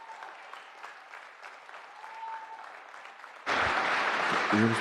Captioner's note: applause